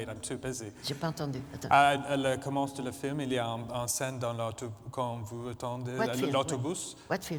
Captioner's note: speaking french